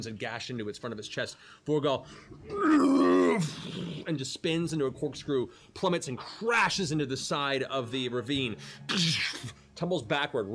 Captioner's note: roars